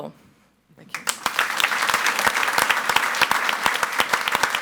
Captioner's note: audience applauds